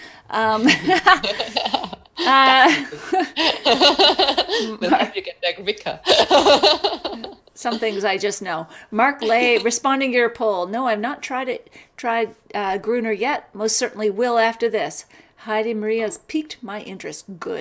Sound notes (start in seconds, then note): 0.5 both laugh; 4.5 mic distorts